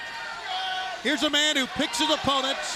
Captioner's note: crowd cheering